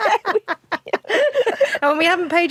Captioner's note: laughs